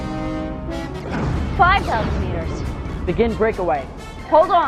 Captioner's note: explosion